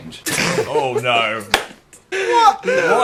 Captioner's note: laughs